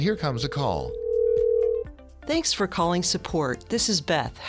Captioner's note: sound of a phone ringing